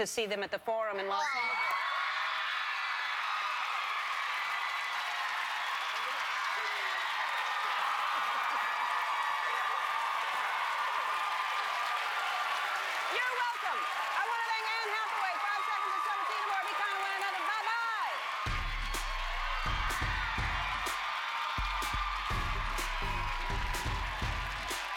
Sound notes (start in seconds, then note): 6.0 cheers and applause